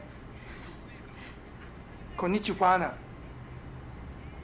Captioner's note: chuckles